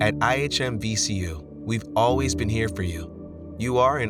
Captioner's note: voiceover